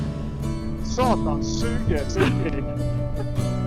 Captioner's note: swearing in Norwegian